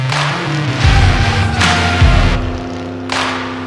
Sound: engine revs

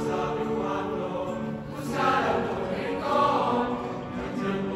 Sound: voices

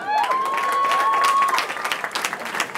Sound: cheering

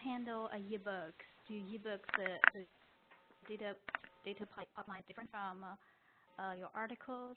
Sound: audio skips

